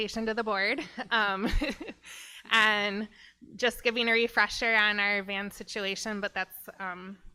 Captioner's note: laughs